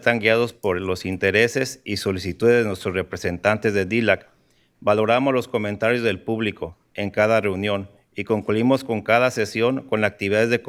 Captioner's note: speaking in spanish